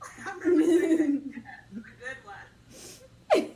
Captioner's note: laughs